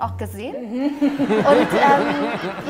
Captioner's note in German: Lachen